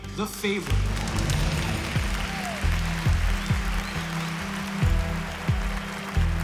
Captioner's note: cheering